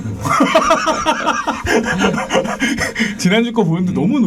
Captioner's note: laughing